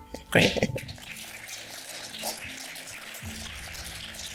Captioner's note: applause